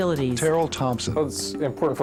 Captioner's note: voiceover